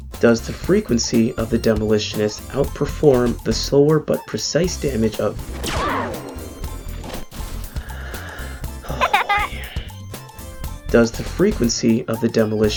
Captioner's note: sighs